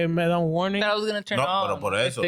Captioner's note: speaking In Foreign Language